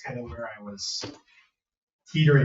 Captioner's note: members laughing